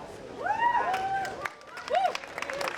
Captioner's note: audience applauding